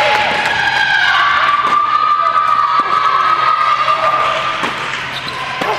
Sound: audience cheers

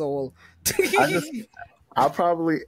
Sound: laughs

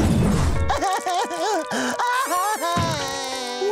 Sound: crying

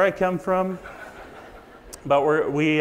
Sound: audience laughs

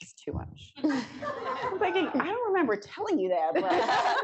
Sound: laughter

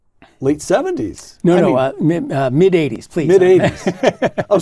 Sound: laugh

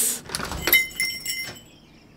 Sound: door opens

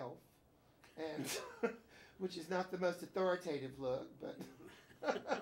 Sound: both laugh

